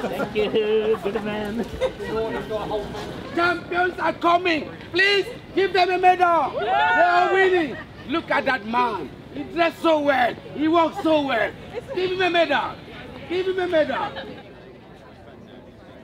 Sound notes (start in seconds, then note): 0.0 people laughing; 6.5 women cheer